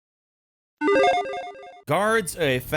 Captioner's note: logo beeping